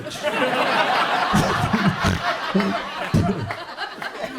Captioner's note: audience laughs